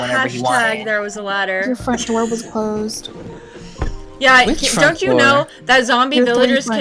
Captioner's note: laughing